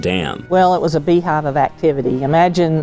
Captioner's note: pat